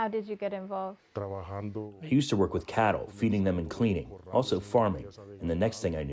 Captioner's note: through translator